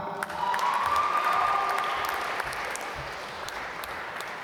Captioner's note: applause